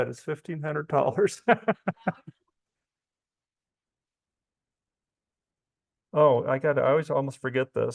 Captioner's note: laughs